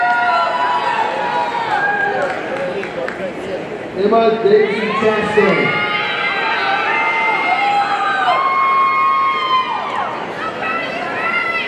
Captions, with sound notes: (audience cheering) Emma Daisy Chastain, (audience cheering)